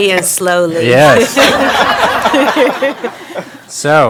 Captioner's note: all laughing